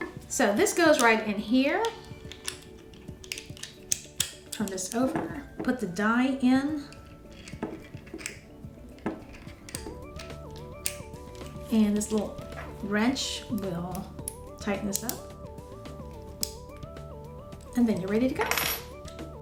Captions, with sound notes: So this goes right in here. (clicking) Turn this over, put the die in. (clicking) And this little wrench will tighten this up. (clicking) And then you're ready to go.